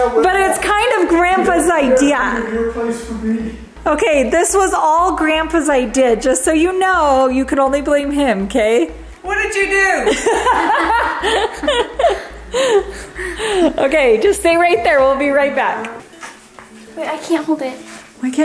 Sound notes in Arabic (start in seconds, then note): 10.0 ضحك